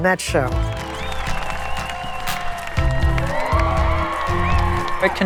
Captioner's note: applause